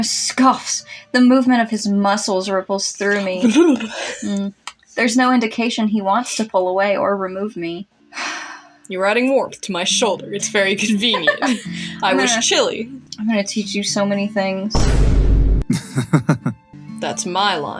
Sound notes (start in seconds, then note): 8.2 sigh; 11.0 laugh; 14.7 Vine Boom; 15.7 chuckles